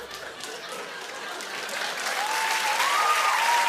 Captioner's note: laughter; applause